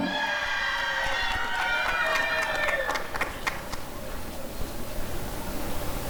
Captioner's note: applause and cheering